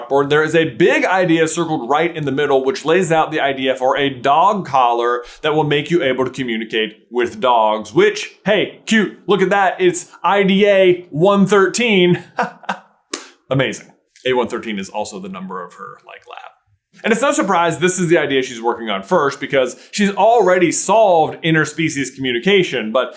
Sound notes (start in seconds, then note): 12.1 chuckles